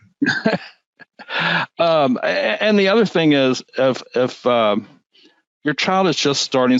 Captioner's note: laughs